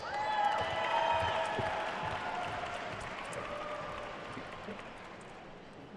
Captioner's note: attendees cheering and applauding